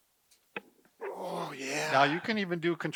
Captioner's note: panting